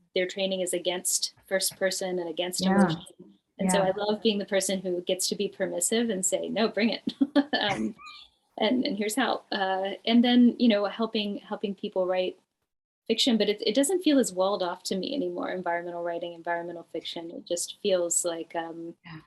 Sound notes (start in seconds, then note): 7.6 laughs